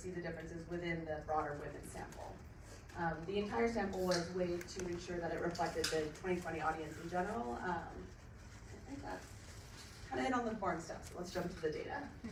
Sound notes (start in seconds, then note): none